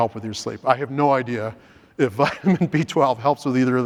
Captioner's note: laughs